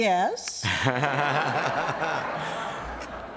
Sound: laughter

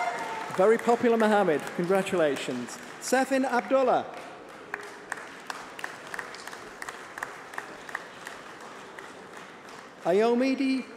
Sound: applause

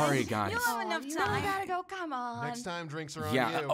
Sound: student chatter

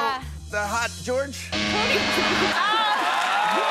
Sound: buzzer sounds

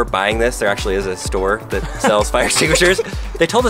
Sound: all laugh

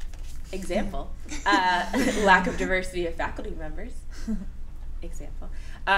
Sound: laughter

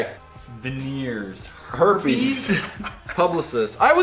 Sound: laughs at answer two

